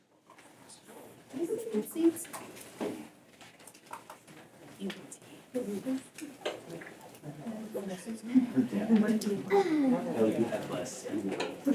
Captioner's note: whispering